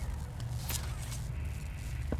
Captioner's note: footsteps